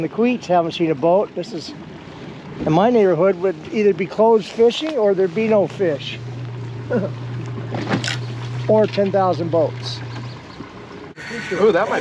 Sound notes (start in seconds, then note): 6.9 chuckling; 9.4 rod whipping; 10.5 reel spinning